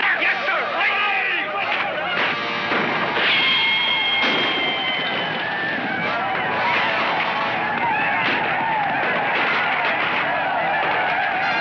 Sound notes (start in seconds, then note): 1.6 Bob mumbles; 2.1 gunshots firing